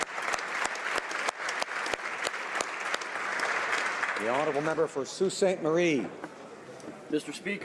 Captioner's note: applause